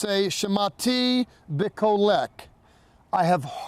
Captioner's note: speaking in Hebrew